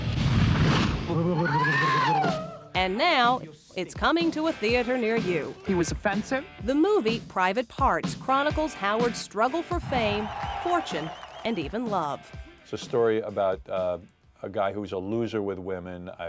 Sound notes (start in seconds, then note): 1.2 burbling; 1.4 woman screaming